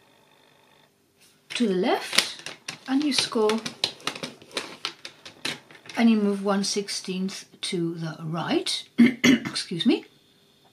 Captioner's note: coughs excuse me